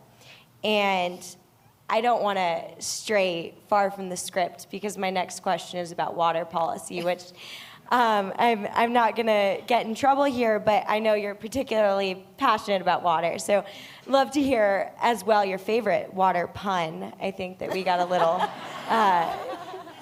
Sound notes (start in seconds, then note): 17.6 laughter